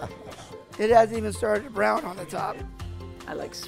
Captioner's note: laughs